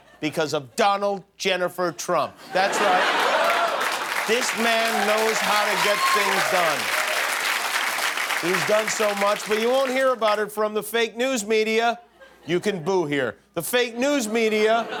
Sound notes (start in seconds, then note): 6.8 applause